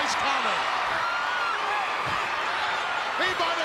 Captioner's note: crowd cheering